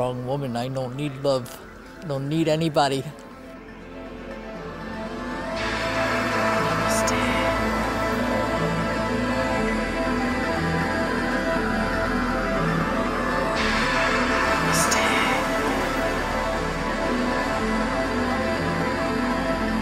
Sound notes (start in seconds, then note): 7.8 whispered